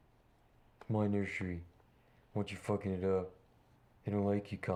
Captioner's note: con risa